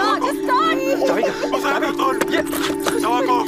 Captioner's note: child crying